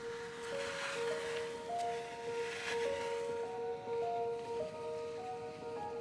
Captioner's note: stick dragging